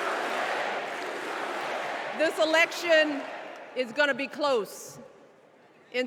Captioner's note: crowd chanting